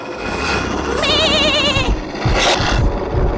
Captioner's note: foreboding music; sheep bleating fearfully